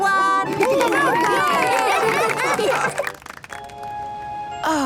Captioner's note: cheering, applause